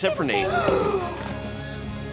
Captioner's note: Lily gasps